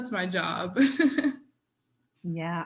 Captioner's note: chuckles